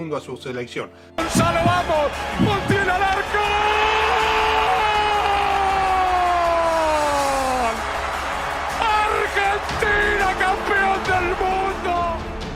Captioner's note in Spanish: Aplausos y gritos